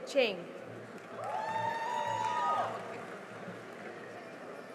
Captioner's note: cheering and applause